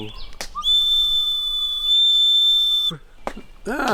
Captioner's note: whistle blows